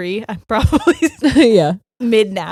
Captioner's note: laughing